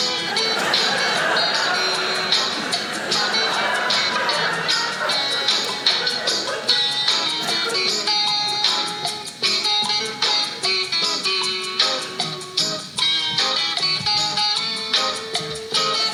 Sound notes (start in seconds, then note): 0.0 audience laughing; 3.7 audience cheering